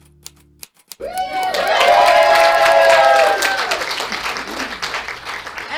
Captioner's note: keyboard clicking; cheering